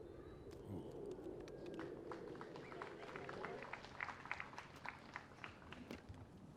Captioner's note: applause